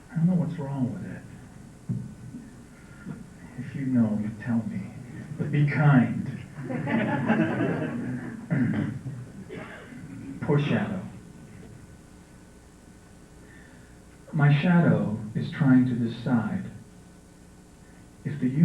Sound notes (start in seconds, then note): 6.5 laughter